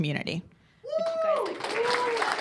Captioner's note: cheers and applause